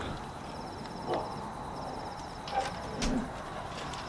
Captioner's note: dog barks